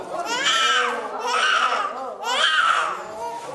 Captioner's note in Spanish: bebé llora